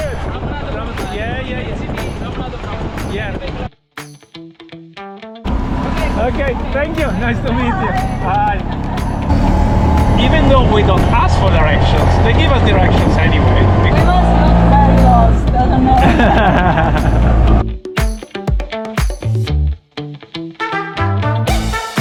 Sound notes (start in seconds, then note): 15.8 laughs; 17.7 upbeat music continues